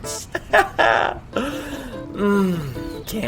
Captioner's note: Ted chuckling